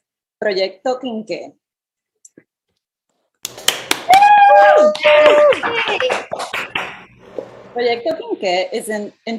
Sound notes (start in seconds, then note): 4.6 applause